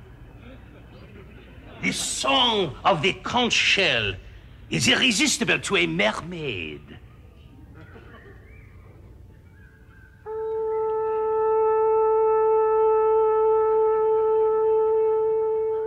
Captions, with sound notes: The song of the conch shell is irresistible to a mermaid. (horn sound)